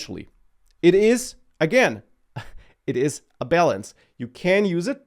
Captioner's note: laughs